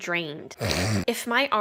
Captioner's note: glorious nose sounds